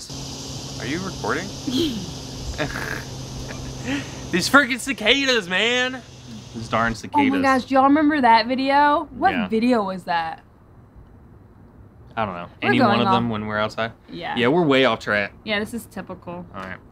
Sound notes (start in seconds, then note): 0.2 cicadas buzz; 2.5 giggles; 2.7 scoffs